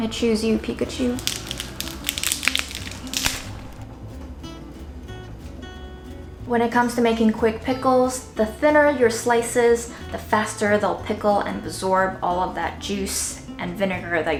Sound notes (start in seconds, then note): 1.6 crackling sound; 3.9 country music